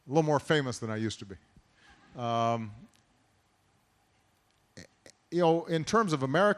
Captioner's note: laughter